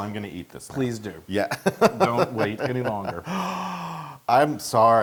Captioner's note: laughs